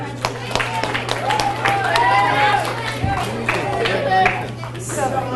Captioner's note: audience cheers and applauds